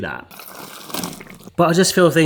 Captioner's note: vegetables sloshing